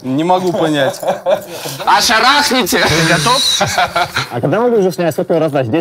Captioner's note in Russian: смех